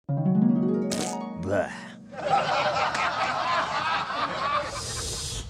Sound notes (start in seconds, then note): 2.2 laughs